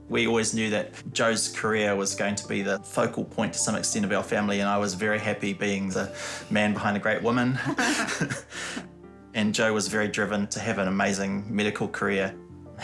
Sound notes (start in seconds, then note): 7.6 both chuckle